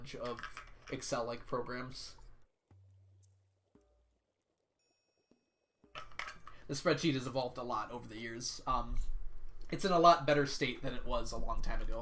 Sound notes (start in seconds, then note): none